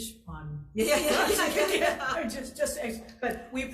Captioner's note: all laugh